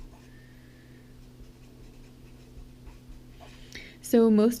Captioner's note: pen scratching